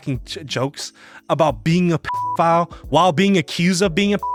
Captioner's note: beeps